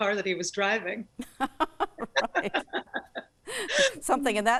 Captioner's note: both laughing